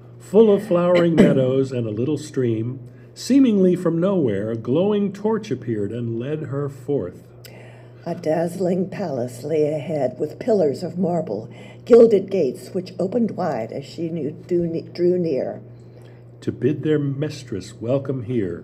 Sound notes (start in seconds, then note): 7.4 voices